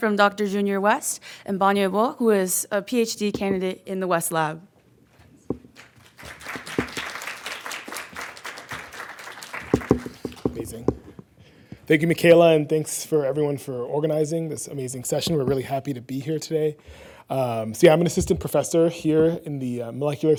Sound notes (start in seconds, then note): 5.6 audience clapping